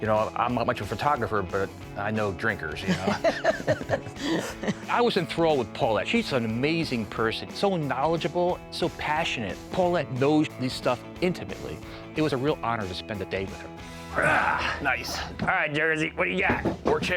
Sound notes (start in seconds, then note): 2.8 laughing